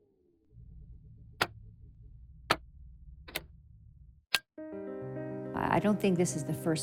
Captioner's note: buttons clicking